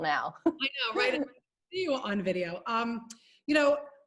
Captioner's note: murmurs